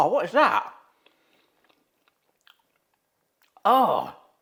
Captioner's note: mouth smacking